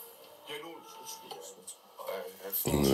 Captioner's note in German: Stimmen aus dem Laptop